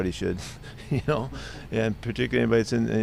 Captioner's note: Pete laughs